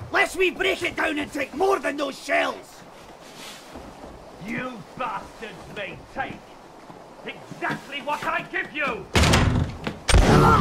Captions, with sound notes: "Lest we break it down and take more than those shells!" "You b*stards may take..." "Exactly what I give you!!" [Door slams open...] [Gunshot] "UUAAGH!"